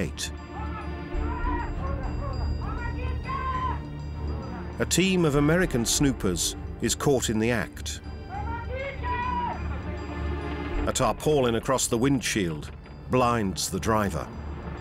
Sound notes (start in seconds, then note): 0.7 soldiers shouting